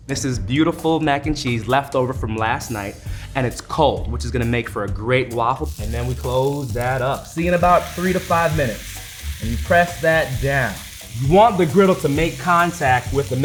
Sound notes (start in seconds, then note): 9.4 oil sizzling